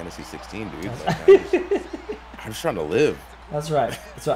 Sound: laugh

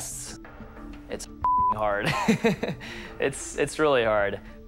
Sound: laughs

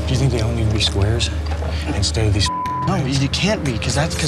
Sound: beep

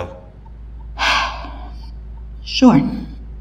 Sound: Sidney sighs

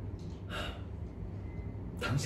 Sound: exhales

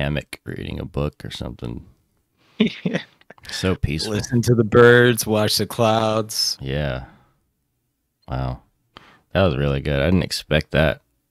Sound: laughs

